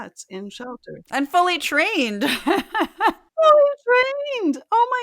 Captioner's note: laugh